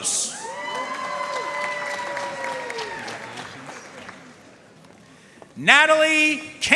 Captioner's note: audience cheering and applauding